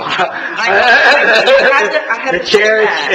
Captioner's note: all laughing